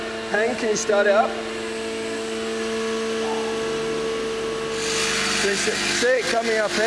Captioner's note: machine starting up